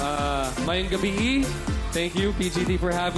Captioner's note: in Bisaya